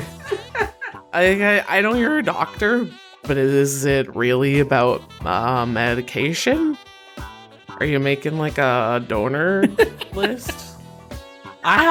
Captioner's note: A FEW PEOPLE snicker; laughs